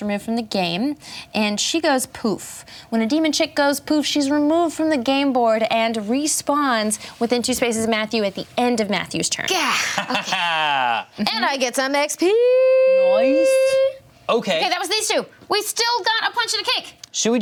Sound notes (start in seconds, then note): 9.5 laughing